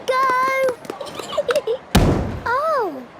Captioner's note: giggling, thudding